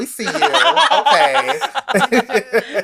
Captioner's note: laughs